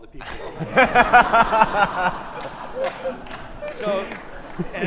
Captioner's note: all laughing